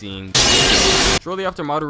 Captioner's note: loud fighting strike